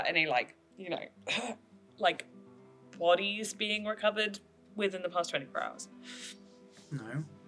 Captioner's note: clears throat